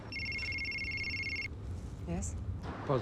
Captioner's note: cell phone ringing